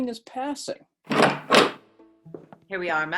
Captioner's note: door opens and footsteps